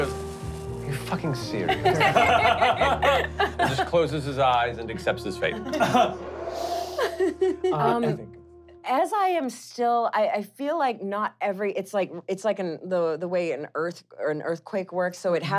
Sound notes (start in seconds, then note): 1.7 laughing; 5.8 wind blowing